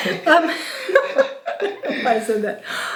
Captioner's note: laughing